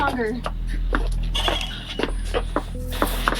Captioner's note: door opens